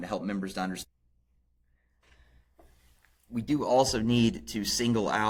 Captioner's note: audio loss